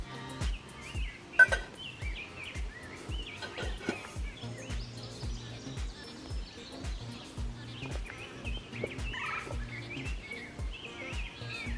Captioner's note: bird and nature sounds with faint metal pot clinking